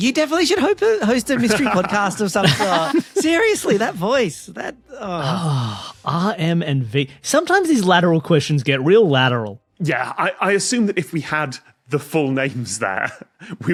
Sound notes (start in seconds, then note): 2.4 others laughing